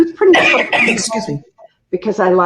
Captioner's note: coughing